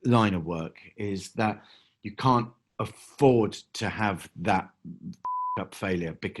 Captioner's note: beeping